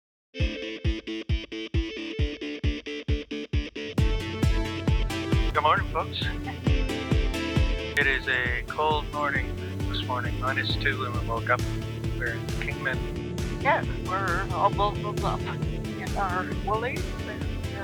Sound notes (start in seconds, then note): 6.2 chuckles